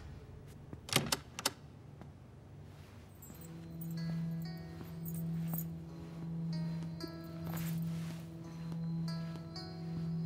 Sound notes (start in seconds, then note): 0.6 doorknob rattles